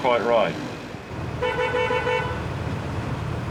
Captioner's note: horns beeping